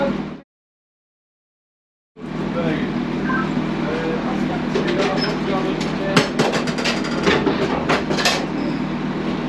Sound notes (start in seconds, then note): 3.2 radio Sounds; 4.4 ramp clattering